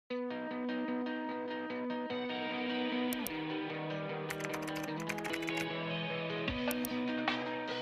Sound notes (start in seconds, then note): 0.4 upbeat music; 4.3 keyboard clacking; 4.3 mouse clicking; 6.6 upbeat music